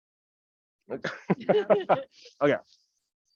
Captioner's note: people chuckling